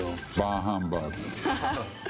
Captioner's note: laughter